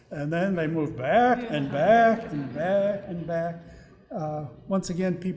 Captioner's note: audience laughing